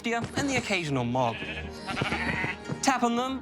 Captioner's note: bleats